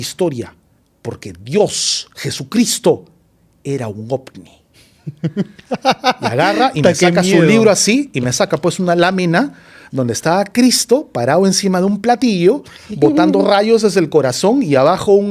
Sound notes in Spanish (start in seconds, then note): 5.0 risas